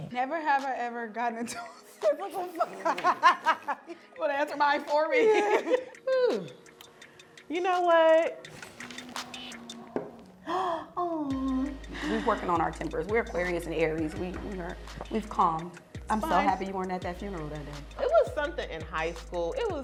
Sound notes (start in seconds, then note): 1.5 laughing; 10.3 gasps